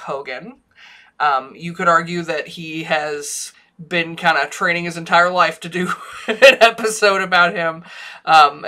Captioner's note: laughs